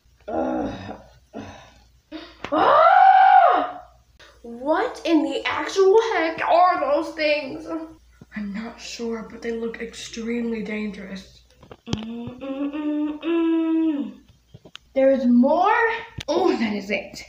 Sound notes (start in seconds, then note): 1.4 gasp